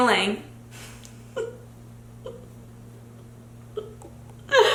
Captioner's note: giggles